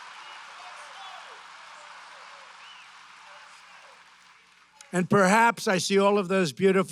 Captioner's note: applause